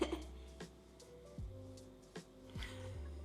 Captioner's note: laughs